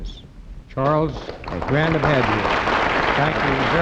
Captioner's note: audience applauds